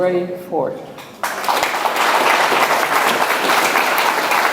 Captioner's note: audience applauds